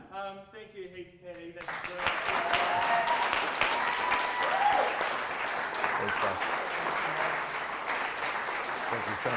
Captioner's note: audience applause